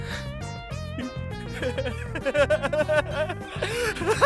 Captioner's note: laughing manically